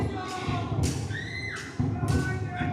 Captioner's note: village girls screaming